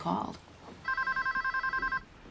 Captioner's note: phone rings